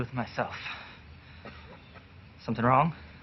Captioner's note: coughs quietly